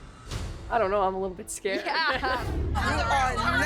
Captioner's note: all laugh